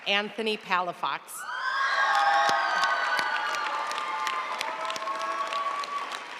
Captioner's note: audience cheering and applauding